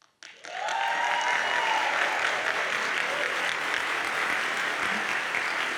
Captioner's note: audience cheers and applauds